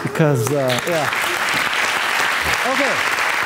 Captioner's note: audience applauding